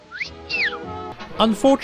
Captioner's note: whistles